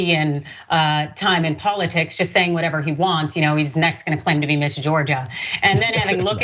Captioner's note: laugh